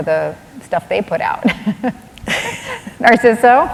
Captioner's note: laughter